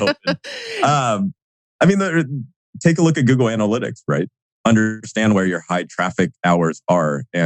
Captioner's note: laughs